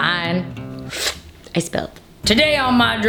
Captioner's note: slurp